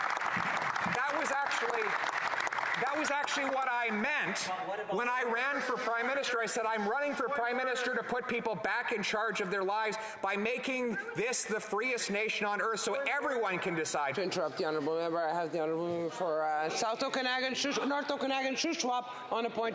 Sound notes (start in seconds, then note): 4.4 applause